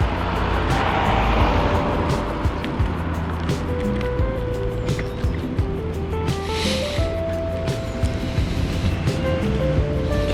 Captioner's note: wind Blowing